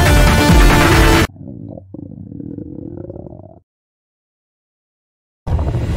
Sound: stomach growl

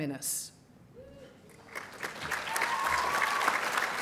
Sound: applause

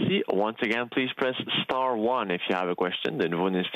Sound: speaking Alternate Language

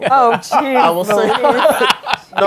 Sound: laughter

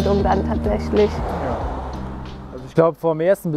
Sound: street noise

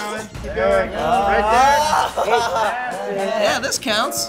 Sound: screaming

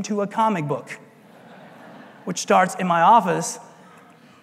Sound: laugh

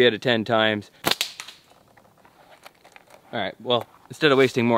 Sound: branches cracking

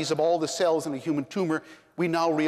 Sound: none

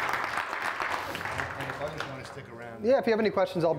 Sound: attendees applauding; applaud drowns out speaker

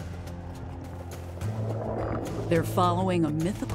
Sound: water gurgling

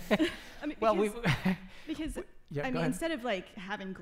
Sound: laughing

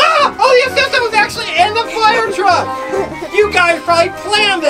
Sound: screams; assistant yelling

